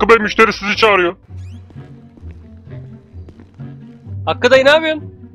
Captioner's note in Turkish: yürüme sesi